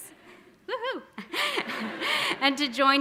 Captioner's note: audience laughing